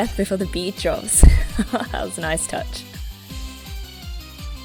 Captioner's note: laughs